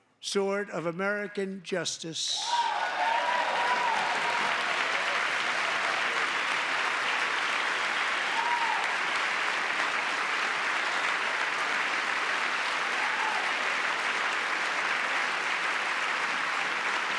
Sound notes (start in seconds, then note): 5.0 cheering; 11.0 applause